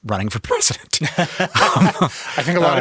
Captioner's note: both laugh